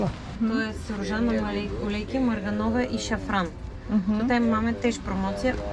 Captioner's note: the saleswoman speaks Polish